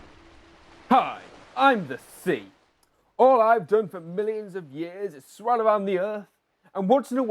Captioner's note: wave crashes